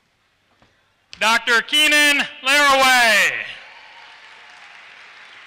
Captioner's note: applause